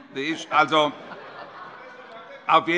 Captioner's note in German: Heiterkeit